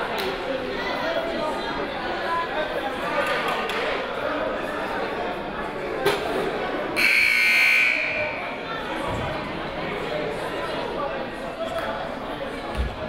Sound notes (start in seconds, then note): 7.4 timer buzzes